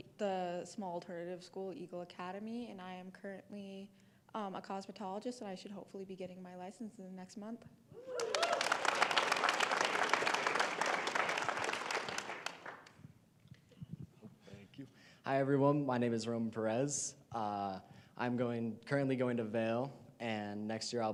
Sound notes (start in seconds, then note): 9.9 applause